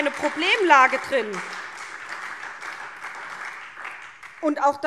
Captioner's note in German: Beifall SPD